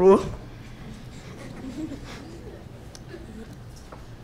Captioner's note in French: petits rires